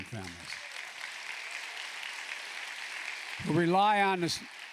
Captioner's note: applause